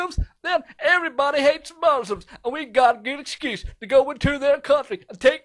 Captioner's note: laughs